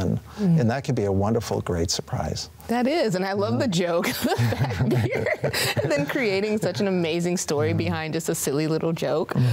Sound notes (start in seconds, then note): 4.1 laughs; 4.2 chuckles